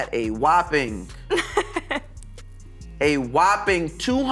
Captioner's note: laughs